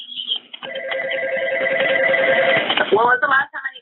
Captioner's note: phone ringing in background